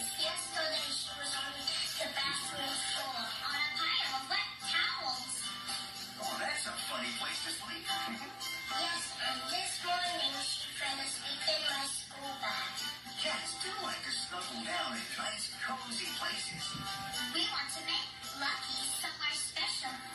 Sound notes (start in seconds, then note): 8.0 chuckles